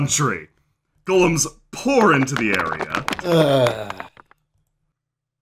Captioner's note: sighs